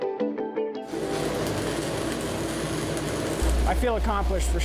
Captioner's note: welding